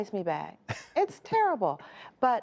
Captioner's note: laughter